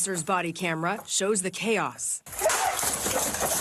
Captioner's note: gunshots